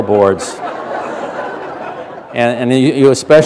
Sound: laughter

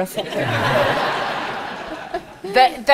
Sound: audience laughs

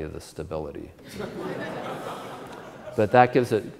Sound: audience Laughter

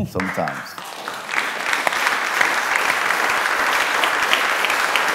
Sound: applause

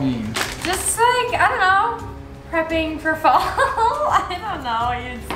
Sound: laughs

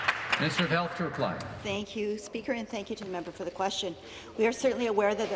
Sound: some Applause

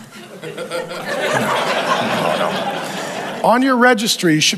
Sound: congregation laughing

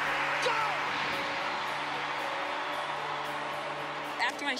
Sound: cheering

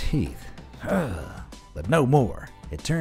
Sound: narrator groans

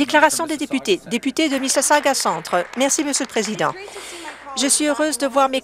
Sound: applause

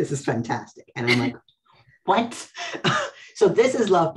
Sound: laughs; laughs

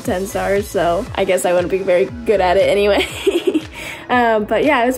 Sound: laughs

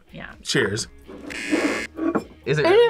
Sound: buzzer

